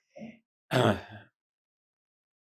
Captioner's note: clears throat